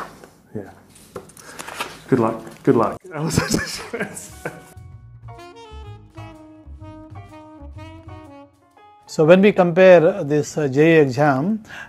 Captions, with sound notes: Yeah. Good luck, good luck. (laughing) (smooth jazz music) - So when we compare this JEE exam